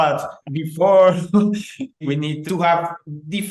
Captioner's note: laughing